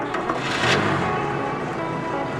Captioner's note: car starting